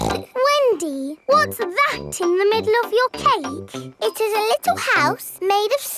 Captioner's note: snorts